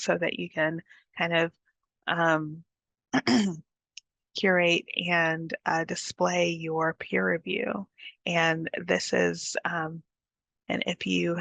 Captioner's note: clears throat